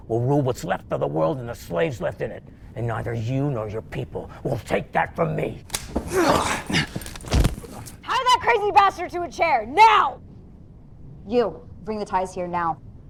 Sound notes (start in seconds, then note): 5.6 gun clacking; 5.7 punch smacking; 6.0 soldier grunting